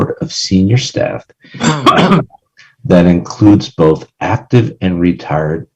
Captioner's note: cough